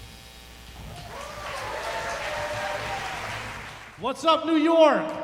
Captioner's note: applause, cheering